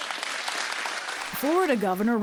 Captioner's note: applause